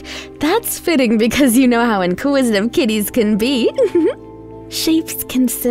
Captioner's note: giggles